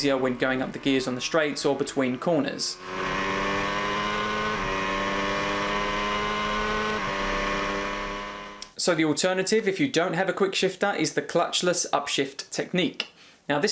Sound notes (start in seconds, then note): 3.3 engine revving